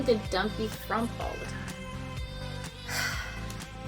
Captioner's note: sighs